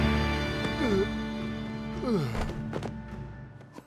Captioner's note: groaning